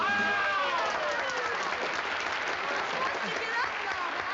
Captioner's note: applause